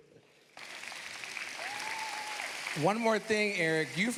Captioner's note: cheers, applause